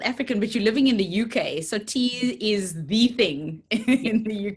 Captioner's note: laughs